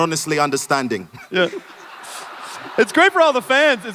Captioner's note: audience laughs